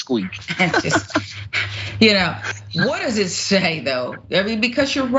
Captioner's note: laugh